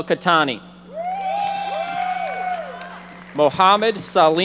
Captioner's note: audience members shouting